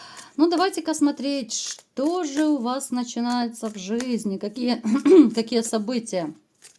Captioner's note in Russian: откашливается